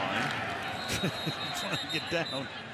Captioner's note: whistle blowing